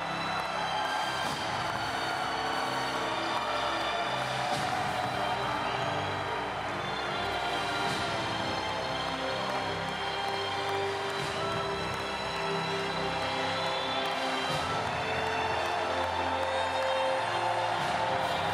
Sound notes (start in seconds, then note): 5.2 cheering and Applause